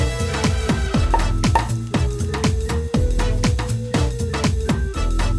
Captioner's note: corks popping